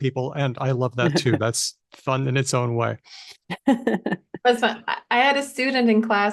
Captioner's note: laughs